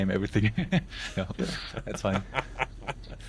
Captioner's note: laughing